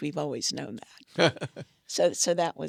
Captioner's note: laughs